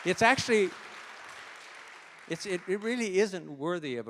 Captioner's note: applause